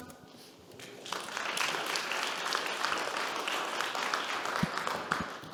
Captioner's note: audience clapping